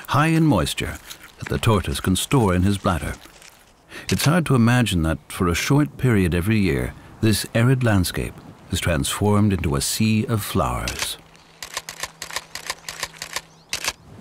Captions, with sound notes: high in moisture that the tortoise can store in his bladder. It's hard to imagine that, for a short period every year, this arid landscape is transformed into a sea of flowers. [camera clicks]